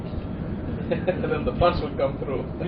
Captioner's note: laughing